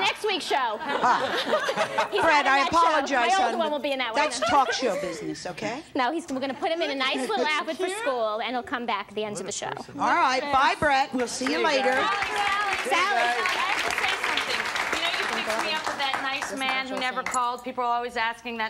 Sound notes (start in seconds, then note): 0.3 people laugh; 11.3 people clamor and applaud